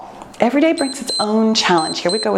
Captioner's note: timer beeps